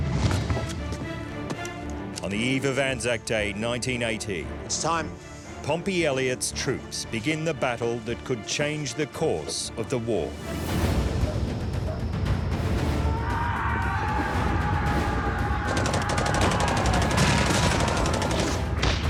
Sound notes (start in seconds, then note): 0.1 uplifting music; 10.4 tense military music; 11.0 dogs barking; 13.5 shouting; 15.6 gunfire